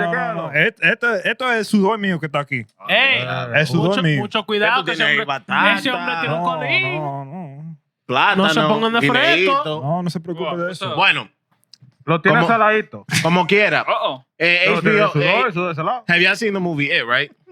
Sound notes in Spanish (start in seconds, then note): 2.6 Hablando en idioma extranjero; 2.6 Riendo; 3.1 Hablando en idioma extranjero